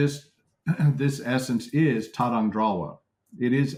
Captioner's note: tibetan